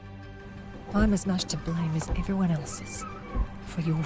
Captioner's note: screams and beatings